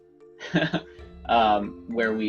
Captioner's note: chuckles